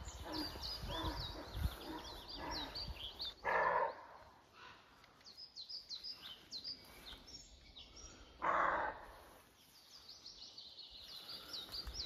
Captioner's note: deer grunting